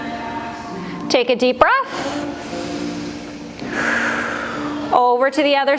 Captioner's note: breath